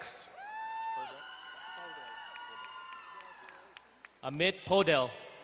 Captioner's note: crowd cheering and applauding